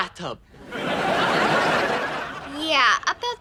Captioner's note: audience laughing